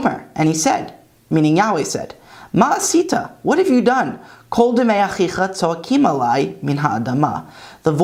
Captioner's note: Hebrew; Hebrew